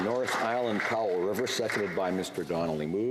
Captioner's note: some Applause